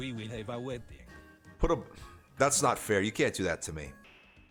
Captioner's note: sighs